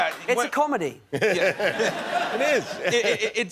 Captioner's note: laughter